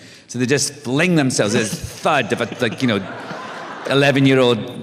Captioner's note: laughter